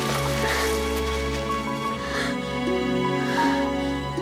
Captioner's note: labored breathing